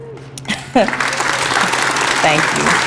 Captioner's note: applause